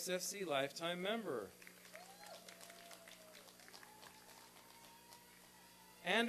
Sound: applause and cheering

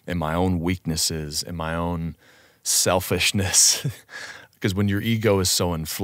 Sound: chuckles

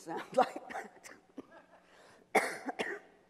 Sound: coughs

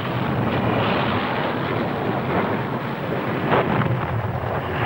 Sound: explosions booming

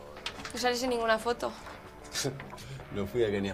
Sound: laughs

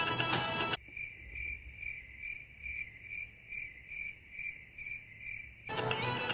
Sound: crickets

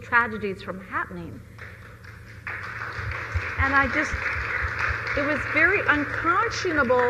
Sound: applause

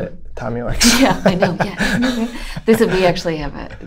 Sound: laughter

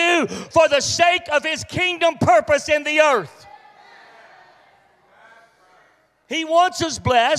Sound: congregation reacts

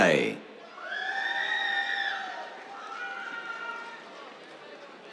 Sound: cheers

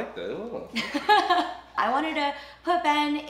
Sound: laughing

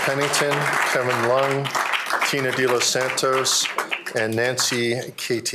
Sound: applause

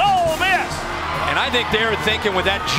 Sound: voiceover

